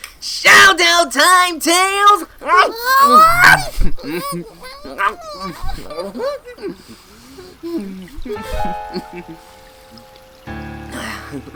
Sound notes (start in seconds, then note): 8.9 gasps